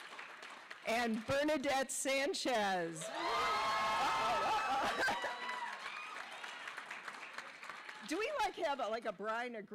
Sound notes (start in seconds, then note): 0.0 cheers and applause; 4.2 laughter